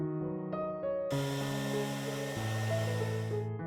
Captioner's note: whirring of heat-gun